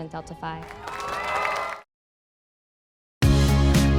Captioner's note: crowd cheering; subtle pop music